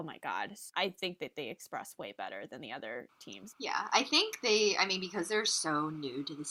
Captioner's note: Russian